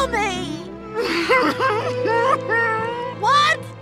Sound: crying

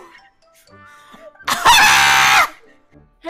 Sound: very loud screaming

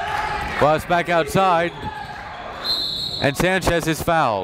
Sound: whistle blows

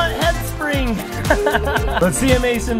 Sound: dad laughs

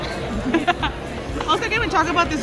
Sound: laughing

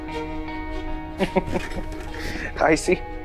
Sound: chuckles

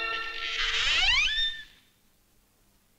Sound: door creaks

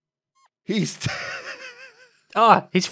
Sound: laughs

